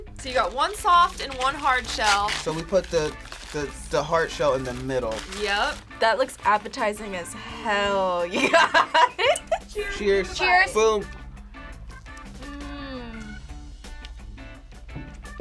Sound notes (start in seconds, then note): 8.3 laughs; 12.0 quirky music